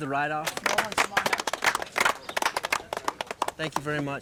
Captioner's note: all clapping